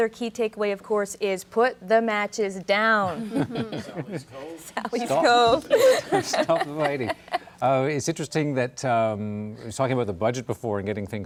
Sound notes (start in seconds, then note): 7.5 laughter